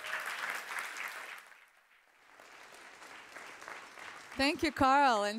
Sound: applause

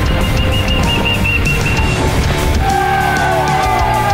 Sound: crowd; dramatic music

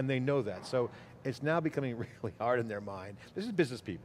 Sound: laughs

